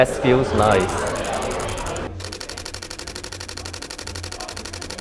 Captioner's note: shutter clicking